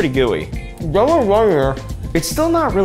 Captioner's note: mumbles with full mouth